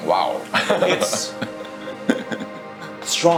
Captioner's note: laughing